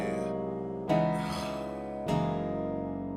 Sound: sigh

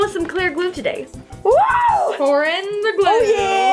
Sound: yelps

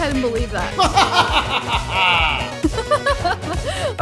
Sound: cackles; laughs

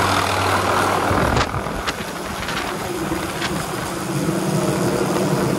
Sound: wind blowing, helicopter blades

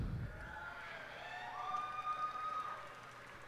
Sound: cheers and applause

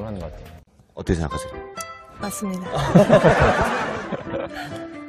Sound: laughing

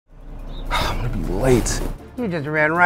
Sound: exhales sharply

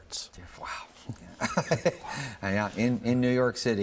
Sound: laughing

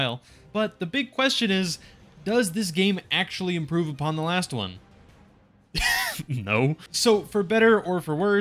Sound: laugh

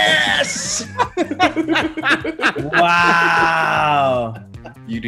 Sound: laugh

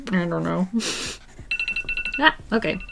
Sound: laughs; timer sounds

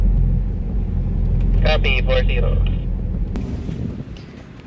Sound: radio

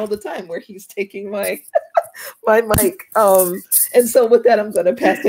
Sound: laughs

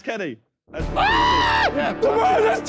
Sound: screaming

